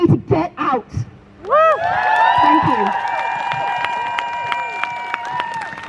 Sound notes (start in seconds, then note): 1.4 crowd Cheers